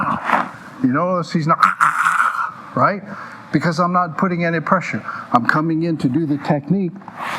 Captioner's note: choking noises